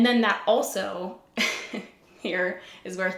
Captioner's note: giggles